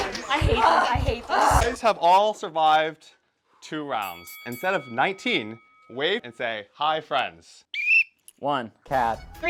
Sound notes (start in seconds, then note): 7.7 whistle